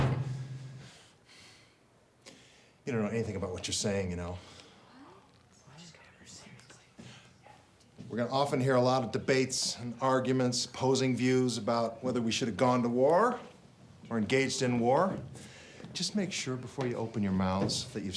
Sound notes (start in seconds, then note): 0.0 hand slams loudly; 6.1 students whispering